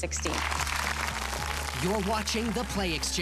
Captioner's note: audience applause